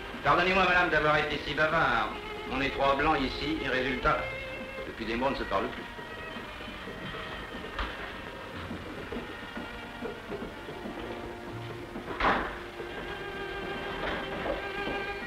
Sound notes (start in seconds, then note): 12.0 door noise